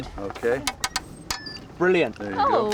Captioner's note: pliers tap